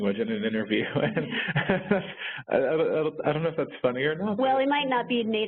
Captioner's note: laughs